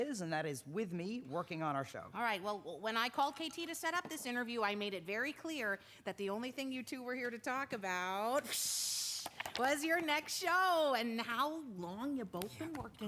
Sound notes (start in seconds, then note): 8.5 exclaims